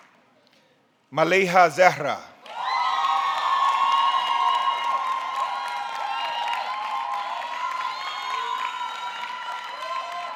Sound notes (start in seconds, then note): 2.4 audience clapping; 2.4 audience cheering